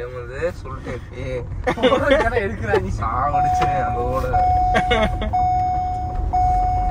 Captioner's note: Laughs